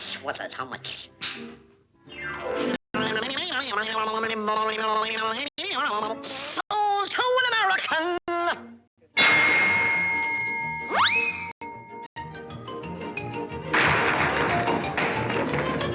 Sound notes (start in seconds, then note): 9.2 wham